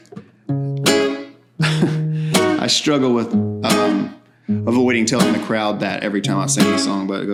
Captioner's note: laughs